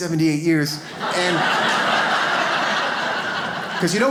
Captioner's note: audience laughs